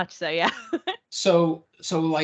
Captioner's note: laughing